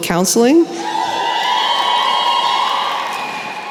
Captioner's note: cheering